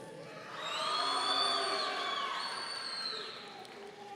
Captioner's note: audience cheering